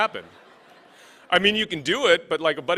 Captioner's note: laughing